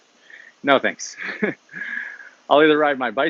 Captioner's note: chuckles